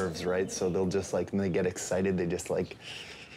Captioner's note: growling